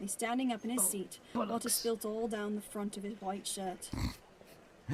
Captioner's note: Sirius snorts